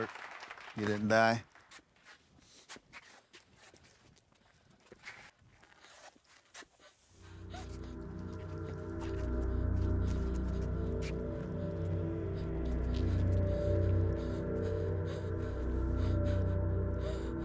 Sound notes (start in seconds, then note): 1.6 footsteps scrape; 7.5 Abby gasps; 7.5 ominous music